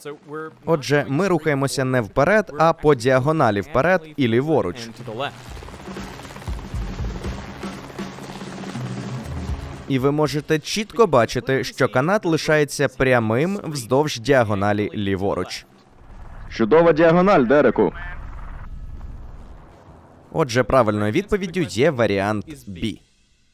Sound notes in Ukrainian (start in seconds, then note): 5.5 бадьора музика; 5.6 гурчання лопатей вертольота